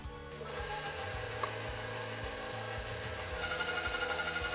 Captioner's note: mixer roaring